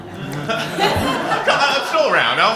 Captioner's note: laughter